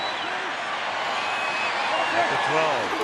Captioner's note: crowd cheering